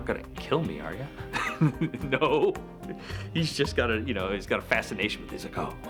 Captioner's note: laugh